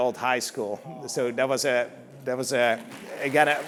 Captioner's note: applause